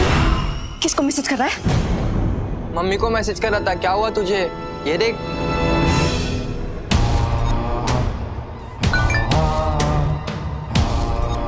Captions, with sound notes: Who are you messaging? I was messaging my mom. What's up with you? Look. [sinister music] [mobile chiming]